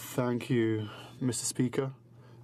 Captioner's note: speaking in french